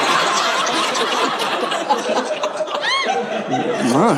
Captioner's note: audience laughing